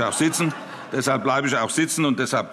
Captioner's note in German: Heiterkeit